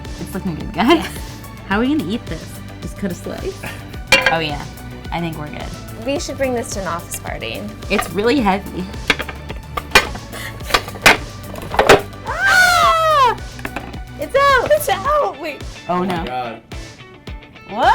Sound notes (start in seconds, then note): 0.0 upbeat pop music; 10.6 laughing; 12.2 screaming